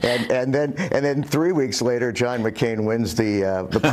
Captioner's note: laughter